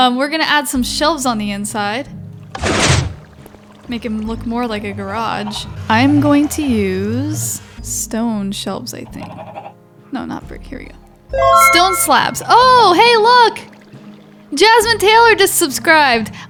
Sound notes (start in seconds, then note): 11.3 bell chimes